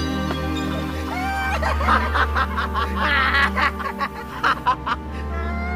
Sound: laughter

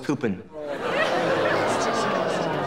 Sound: moaning

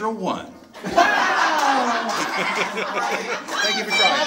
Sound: audience laughs

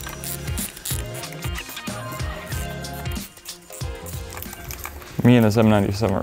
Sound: upbeat music; tool whizzes

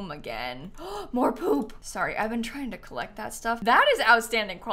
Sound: gasps

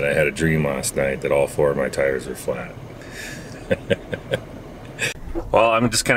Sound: laughing

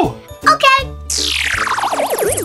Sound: lasers whooshing

